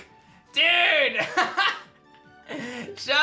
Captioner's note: laughs